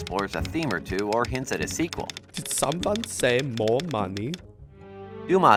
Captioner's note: Freytag typing on typewriter